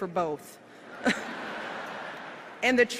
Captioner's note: laughter